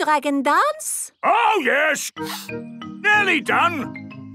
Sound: sniffing

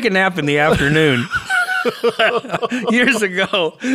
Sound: both laughing

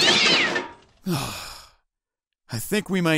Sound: destruction noises coming from the other room; Sonic sighs

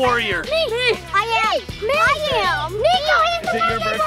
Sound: children shouting "me"

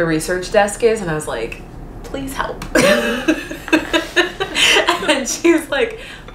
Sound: laughing

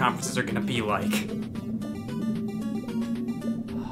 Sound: eerie sound

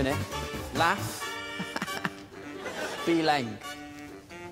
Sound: chuckles

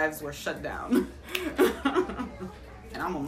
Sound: laughing

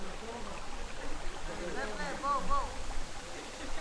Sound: water trickling

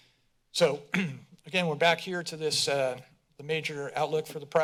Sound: clears throat

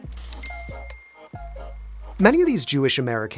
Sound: bell dings

